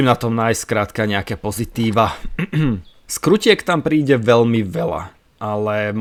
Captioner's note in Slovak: odkašľanie